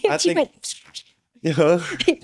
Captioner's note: laughing